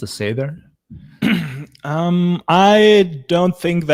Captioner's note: clears throat